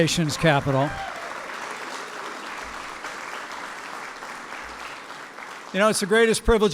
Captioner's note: applause